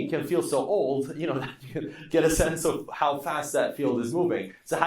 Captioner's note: laughing